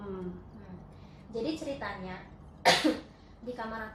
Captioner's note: cough